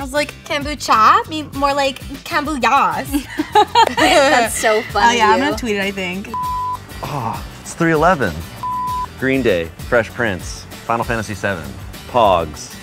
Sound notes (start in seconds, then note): 3.1 laughter